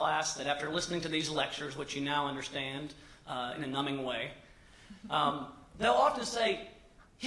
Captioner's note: laughter